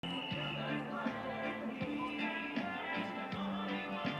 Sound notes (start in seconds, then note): 0.0 whistle blows